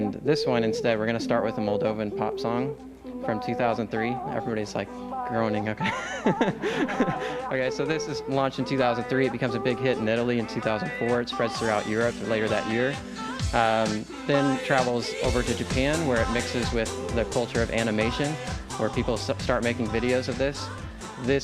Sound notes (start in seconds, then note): 5.8 laughs